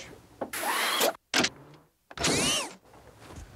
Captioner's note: whirring